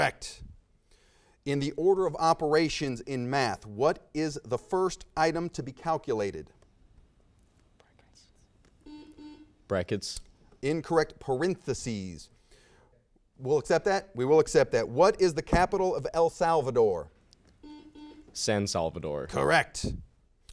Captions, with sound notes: - Correct. In the order of operations in math, what is the first item to be calculated? - (team whispers) (buzzer sounds) Brackets. - Incorrect, parentheses. We'll accept that? We will accept that. What is the capital of El Salvador? - (buzzer sounds) San Salvador. - Correct.